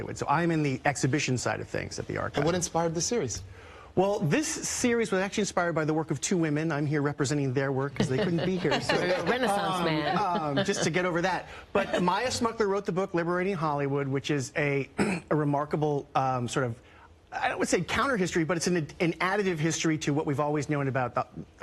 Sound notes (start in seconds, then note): 7.9 laughter